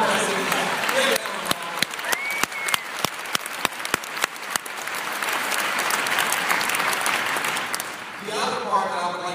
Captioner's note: applause